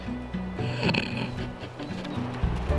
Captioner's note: laughs